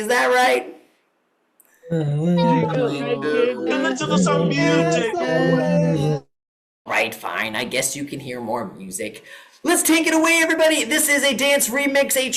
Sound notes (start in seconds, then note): 2.4 cheering